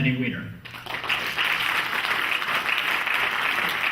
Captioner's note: clapping